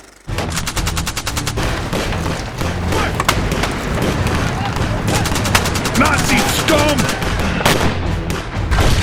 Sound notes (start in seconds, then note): 0.1 fast-paced tense music; 1.5 gunfire rattling